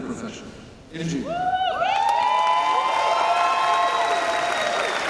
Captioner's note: cheers and applause